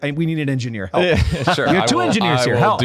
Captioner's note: laughter